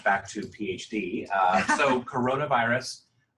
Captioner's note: laugh